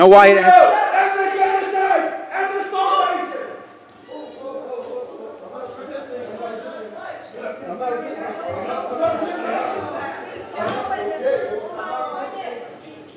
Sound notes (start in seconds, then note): 2.6 protest utterances